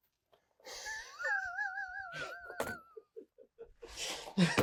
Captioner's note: speaker laughing